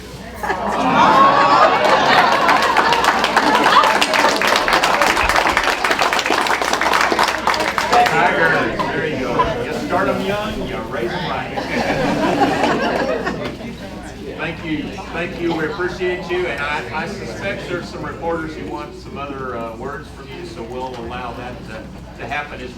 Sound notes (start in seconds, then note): 0.5 exclamations and applause